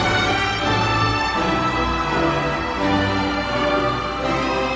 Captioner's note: crowd cheering